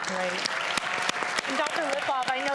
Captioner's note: audience applauds